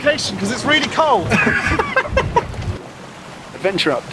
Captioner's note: laughs